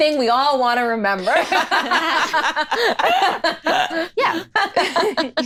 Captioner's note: all laughing